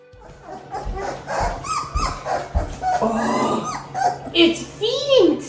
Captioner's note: puppies grunting